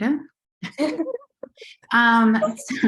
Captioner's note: laughter